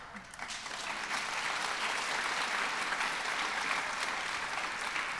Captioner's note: audience applause